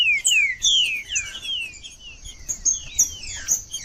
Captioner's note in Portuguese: trinca ferro cantando